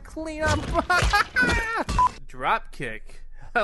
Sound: laughs

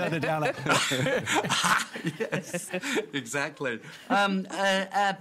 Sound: laughs

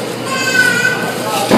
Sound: baby cries out; man singing

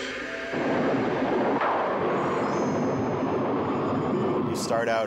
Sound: wind howling; thunder

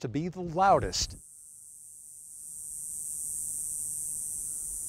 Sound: cicadas buzzing

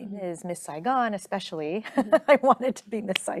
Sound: chuckling

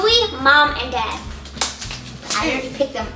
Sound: clapping

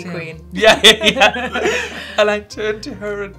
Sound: both laughing

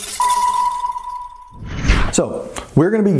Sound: mystical sound

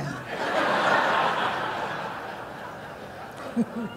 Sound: laughter

